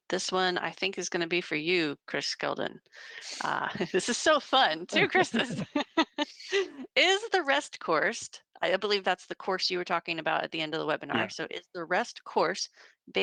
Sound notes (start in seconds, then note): 4.9 laughing